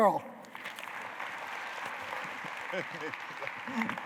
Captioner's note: applause